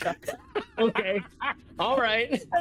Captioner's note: laughter